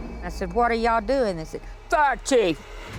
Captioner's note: deep voice